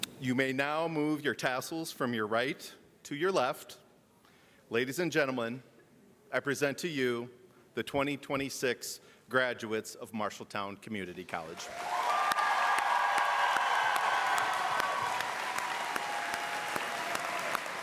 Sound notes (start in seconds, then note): 14.1 applause and cheering